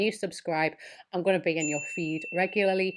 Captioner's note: bell chimes